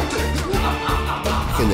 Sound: laughing

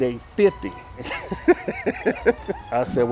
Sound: laughs

